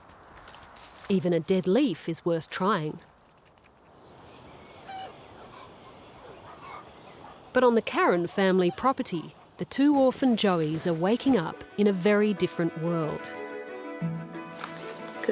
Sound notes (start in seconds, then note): 4.8 chooks cluck; 13.4 upbeat music